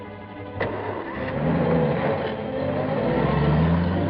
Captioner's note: engine turning